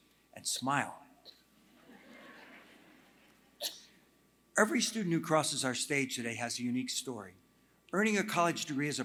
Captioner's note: laughter